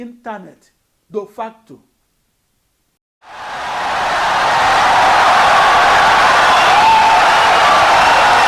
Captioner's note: wild applause and cheering for 17 seconds